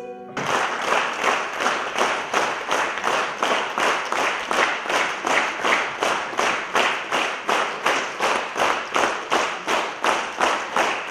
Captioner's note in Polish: aplauz